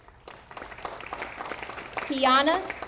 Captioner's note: audience applauding